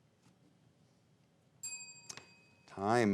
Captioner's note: bell chimes